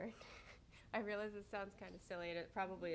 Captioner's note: chuckles